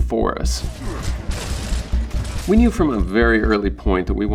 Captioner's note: guns shooting